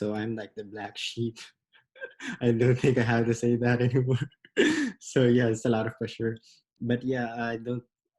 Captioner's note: laughs